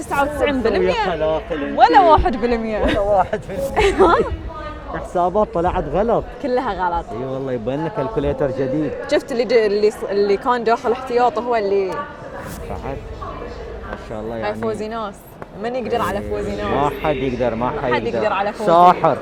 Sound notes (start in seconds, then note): 3.7 laughing